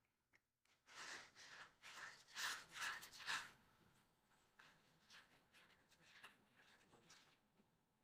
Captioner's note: silence